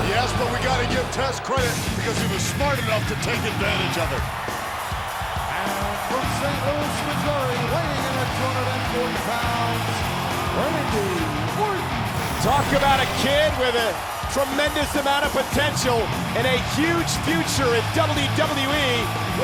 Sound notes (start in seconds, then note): 4.3 crowd cheering; 4.3 rock music continues